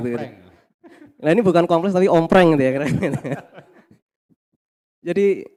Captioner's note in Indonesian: tertawa